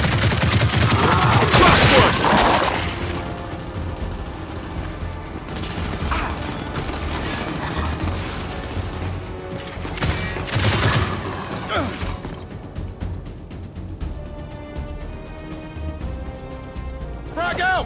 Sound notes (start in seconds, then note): 0.0 gunfire; 8.7 gunfire; 11.6 grunt